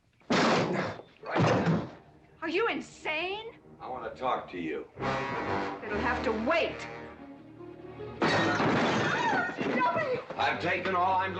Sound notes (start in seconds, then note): 0.3 door crashing open; 3.4 tense music; 8.2 table crashing over; 9.1 Katherine screaming